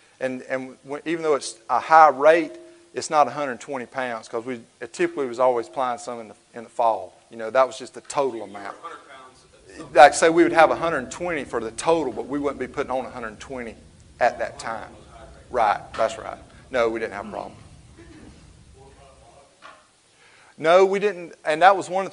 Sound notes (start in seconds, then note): 20.1 speaks faintly